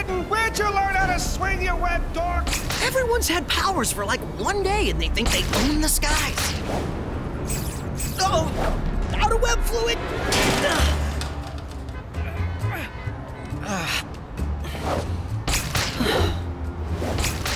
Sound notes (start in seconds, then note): 10.2 crashing; 11.5 traffic humming